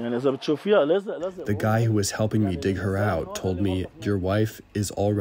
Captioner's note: through translator